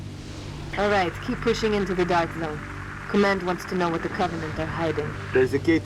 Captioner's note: radio